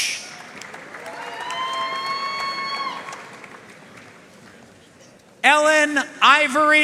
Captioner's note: audience cheering and applauding